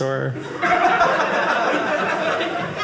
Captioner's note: audience laughing